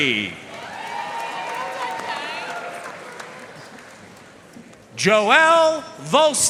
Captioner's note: audience cheering and applauding